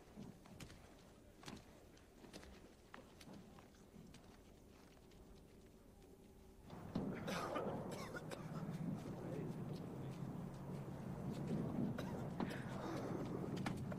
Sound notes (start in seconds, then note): 6.7 artillery booms; 7.0 man coughs